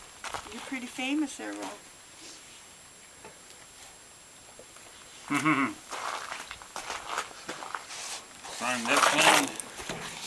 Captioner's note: laughing